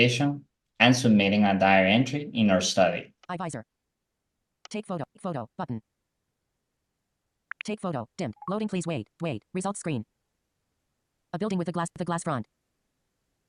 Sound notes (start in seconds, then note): 3.2 automated voice from screenreader